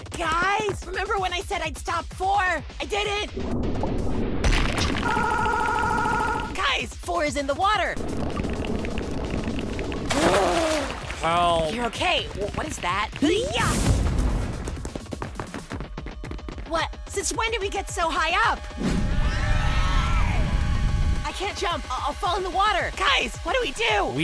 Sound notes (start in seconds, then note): 10.0 inhale; 19.0 scream